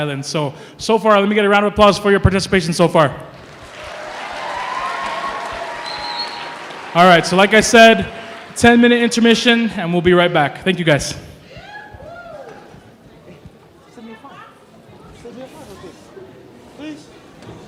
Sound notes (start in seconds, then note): 3.3 applause; 14.5 chattering